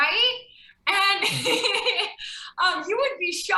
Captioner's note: laughs